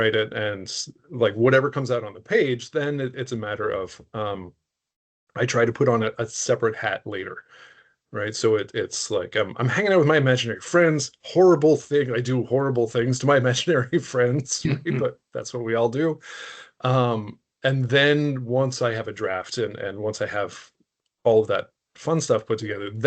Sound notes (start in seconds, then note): 14.3 chuckling